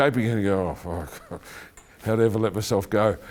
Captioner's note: chuckling